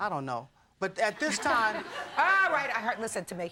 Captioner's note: audience laughing